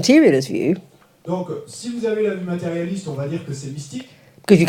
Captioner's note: French